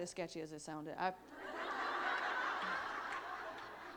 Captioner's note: laughter